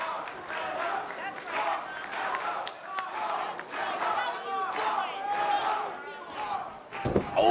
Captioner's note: fans chanting